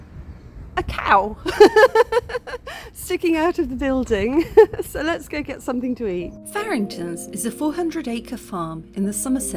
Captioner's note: laughing